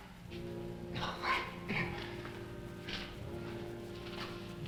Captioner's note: Dan coughing